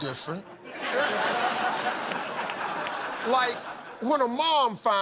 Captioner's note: laughter